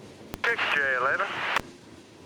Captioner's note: radio static